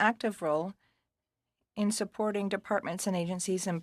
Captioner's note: speaking French